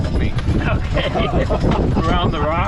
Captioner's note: laughing